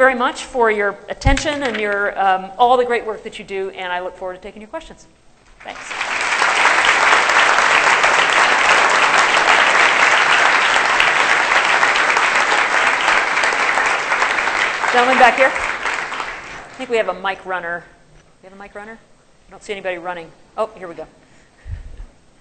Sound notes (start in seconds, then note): 7.8 applause